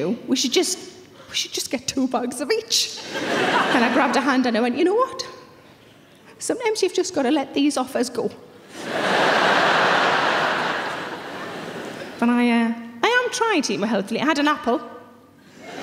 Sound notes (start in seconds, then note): 8.7 audience laughing